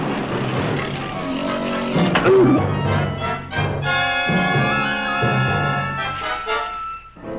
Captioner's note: man grunting; Pete roaring